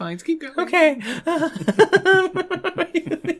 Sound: panic Laughter

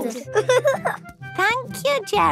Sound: giggling

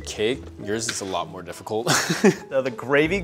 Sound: chuckles

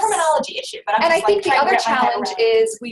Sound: voiceover

